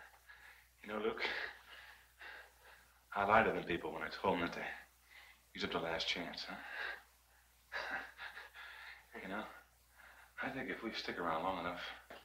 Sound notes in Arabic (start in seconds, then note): 7.7 يضحك